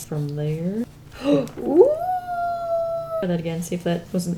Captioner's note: gasps